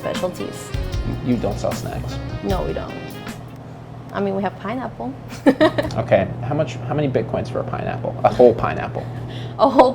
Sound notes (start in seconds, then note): 5.3 woman's laugh echoing